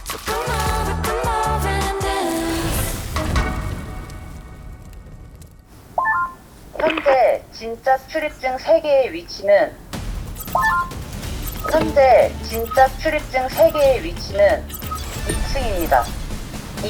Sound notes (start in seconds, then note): 7.8 an announcement comes from their walkie-talkies